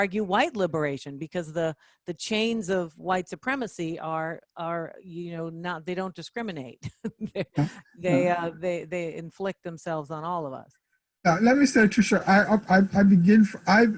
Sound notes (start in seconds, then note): 6.8 chuckling